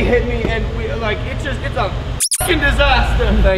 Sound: squeakin

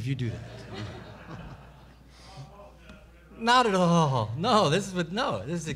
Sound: man speaks of mic

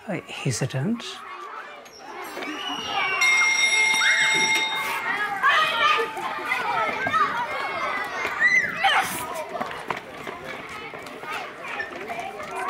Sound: children talking and school bell ringing

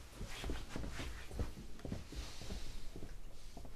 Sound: foosteps departing

